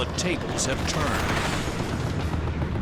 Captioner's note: gunshots